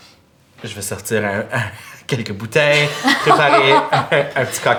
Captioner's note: laughter